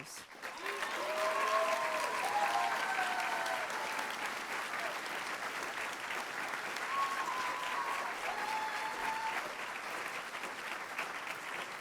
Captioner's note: applause